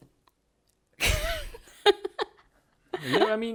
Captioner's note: laughs